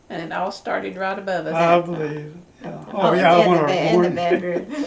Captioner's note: laughs; laughs